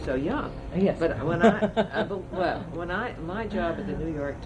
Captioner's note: laughs